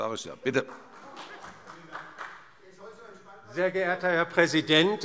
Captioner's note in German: Vereinzelter Beifall